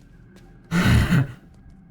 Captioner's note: sighs